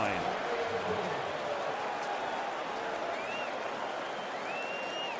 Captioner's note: pa announcement